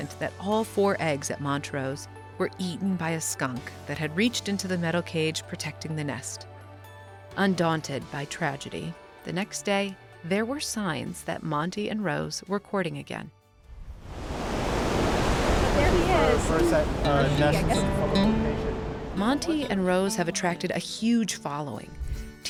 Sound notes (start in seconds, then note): 13.7 waves crashing; 15.8 chatting loudly; 17.2 soft music